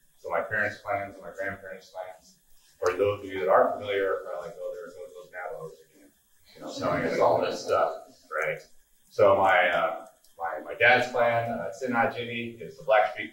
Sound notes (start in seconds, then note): 6.6 laughing; 10.7 speaking foreign language